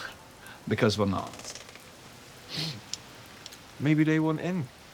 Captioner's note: sniffs